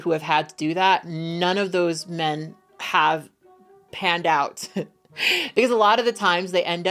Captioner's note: laughs